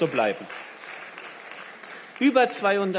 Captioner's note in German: Beifall